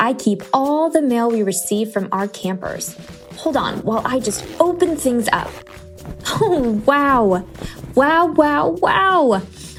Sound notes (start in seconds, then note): 2.9 ziiiiiiip sound